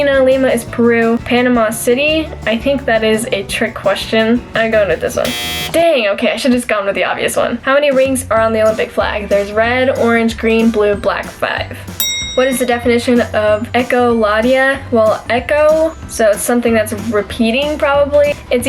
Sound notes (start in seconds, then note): 5.2 buzzer; 10.1 bell ring